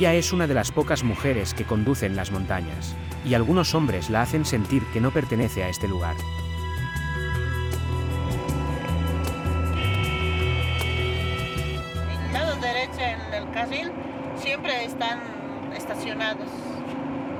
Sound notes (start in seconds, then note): 9.7 car horns honking; 10.2 dramatic music; 12.8 speaking in foreign language